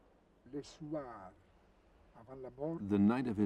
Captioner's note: Italian spoken language